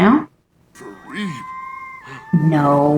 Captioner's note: alien sfx